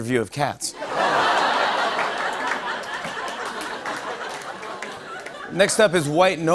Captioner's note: laughter and applause